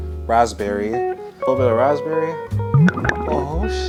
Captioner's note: glugging